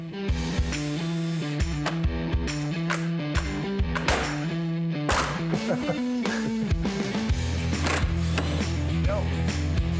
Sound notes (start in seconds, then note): 5.4 laughter